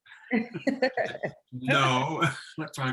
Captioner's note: laughs